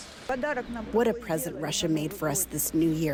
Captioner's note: through translator